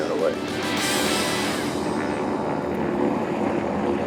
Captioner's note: planes roaring